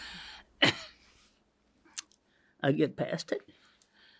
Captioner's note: coughs